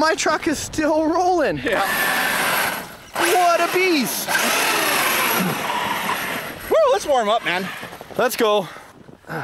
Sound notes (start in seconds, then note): 1.7 RC truck wheels spinning